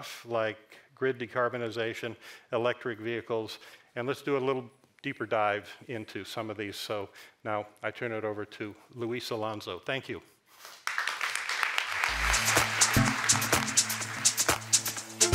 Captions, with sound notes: like grid decarbonization, electric vehicles, and let's do a little deeper dive into some of these. So now I turn it over to Luis Alonzo, thank you. (audience applauds) (upbeat music)